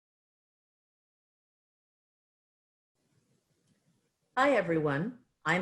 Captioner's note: silence